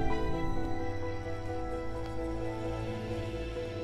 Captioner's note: Footsteps approaching